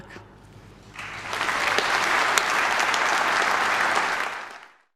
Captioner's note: audience clapping